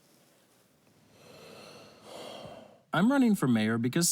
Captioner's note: sighs